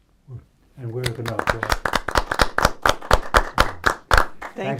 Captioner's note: applause